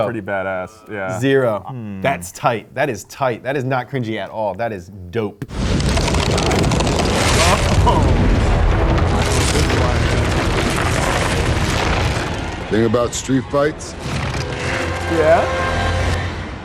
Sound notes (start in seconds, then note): 5.5 loud crashing